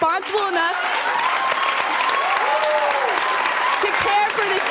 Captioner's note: audience cheering